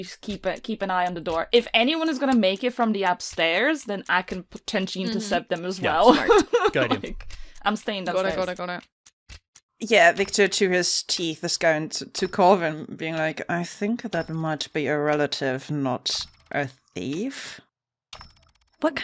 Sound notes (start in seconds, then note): 5.8 laughs; 13.9 through his teeth